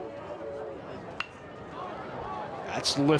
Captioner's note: bat taps